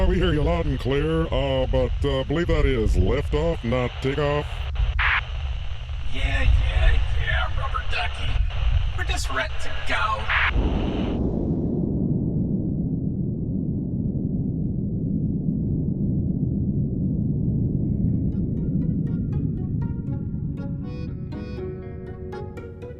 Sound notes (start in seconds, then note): 9.8 rocket launch sound